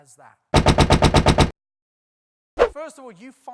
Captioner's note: banging, whooshing